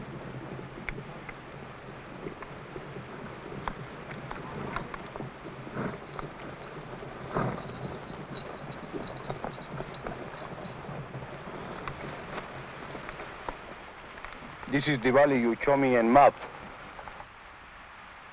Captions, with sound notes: (horse hooves pattering) (horses snorting) - This is the valley you show me